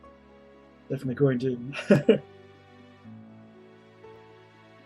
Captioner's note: laughs